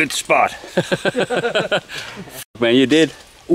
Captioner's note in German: Lachen